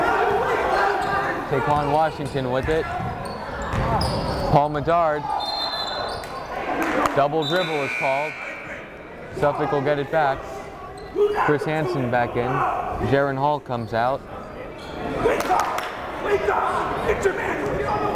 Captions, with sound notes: Taequann Washington with it, Paul Medard. (whistle blowing) Double dribble was called, Suffolk will get it back. Chris Hansen back in, Jeren Hall comes out. (yelling)